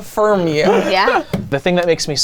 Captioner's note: man laughing